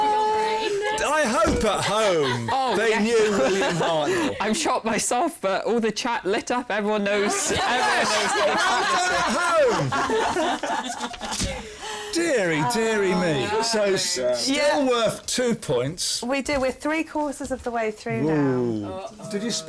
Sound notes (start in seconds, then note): 10.2 laughter